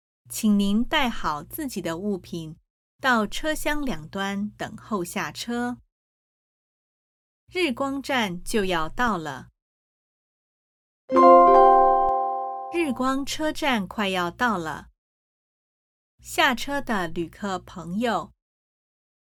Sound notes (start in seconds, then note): 11.1 train announcement